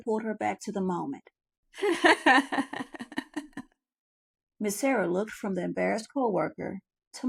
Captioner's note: laughter soundtrack